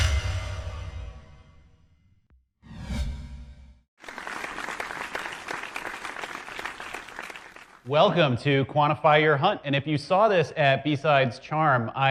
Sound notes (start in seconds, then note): 4.0 audience applauds